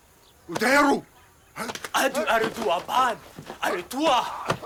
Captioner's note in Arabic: الصوت المنطوق البدوي